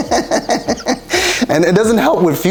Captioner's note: laughing